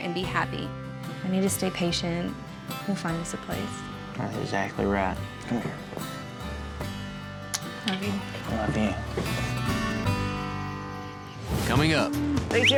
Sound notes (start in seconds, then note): 5.9 smooch